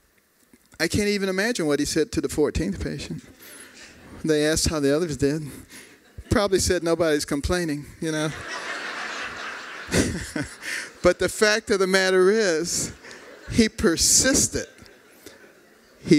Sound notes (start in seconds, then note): 6.0 laughter; 8.2 laughter